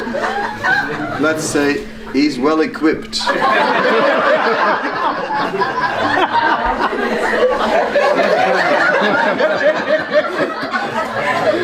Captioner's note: laughter; laughter